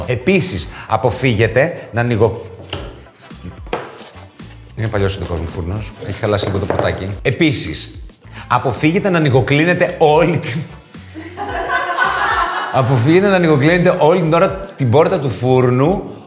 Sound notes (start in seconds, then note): 11.1 laughs